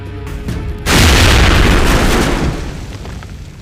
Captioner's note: booming